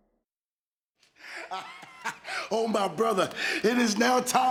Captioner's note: laugh